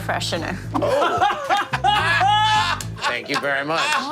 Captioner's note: laughing